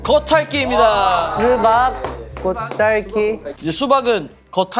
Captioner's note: murmuring